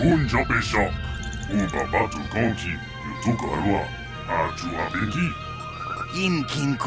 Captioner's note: this droid is speaking a language you do not recognize